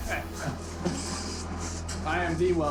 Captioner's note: laughing